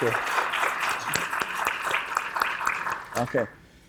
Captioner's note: applause